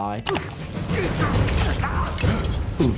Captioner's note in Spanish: los concursantes gruñen